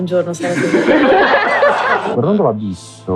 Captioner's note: laughter